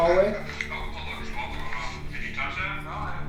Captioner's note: recording playing back